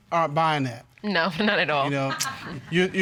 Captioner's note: chuckles